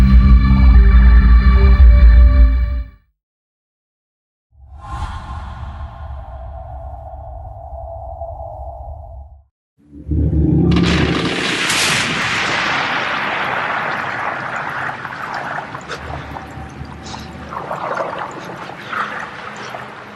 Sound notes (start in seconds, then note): 10.7 ice breaking